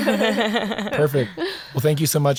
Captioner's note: laughing